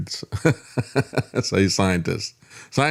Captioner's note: laughing